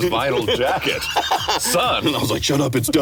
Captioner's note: laughing